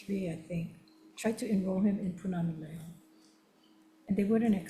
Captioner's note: speaking Hawaiian